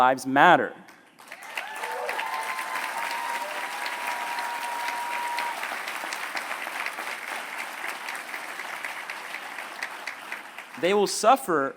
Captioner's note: applause